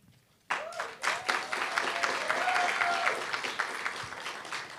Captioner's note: applause, cheer